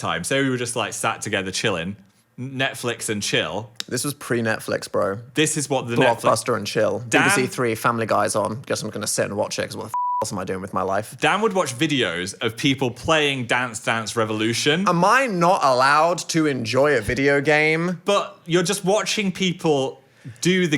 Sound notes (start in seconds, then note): 9.9 beeping